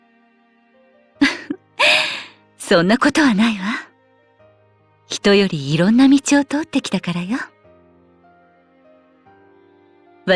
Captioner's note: laugh